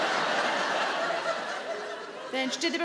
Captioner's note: audience laughing